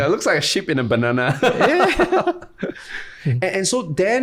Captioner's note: laughter